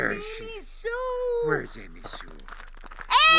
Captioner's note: footfalls scuffing